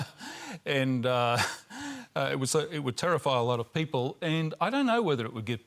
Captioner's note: laughs